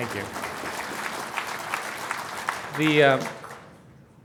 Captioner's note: applause